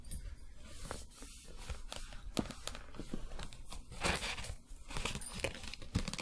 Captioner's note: book creaking, paper sounds